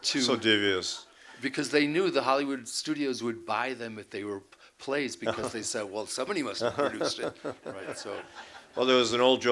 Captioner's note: laughter